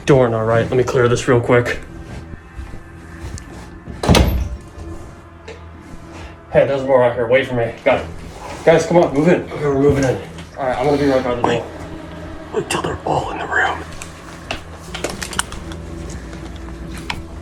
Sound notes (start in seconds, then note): 11.5 whispering